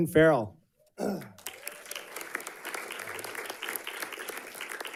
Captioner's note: audience clapping